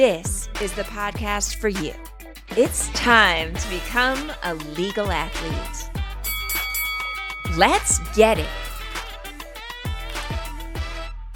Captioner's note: MMA round bell rings